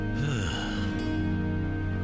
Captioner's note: sigh